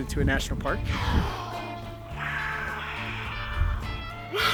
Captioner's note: jaguar snarling